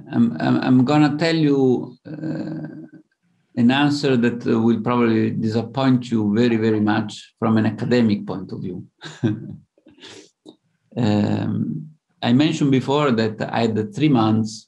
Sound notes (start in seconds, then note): 8.5 laughs